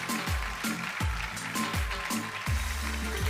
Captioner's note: applause